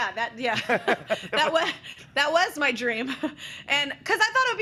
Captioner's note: both laugh